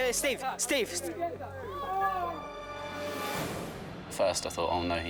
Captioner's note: boys shouting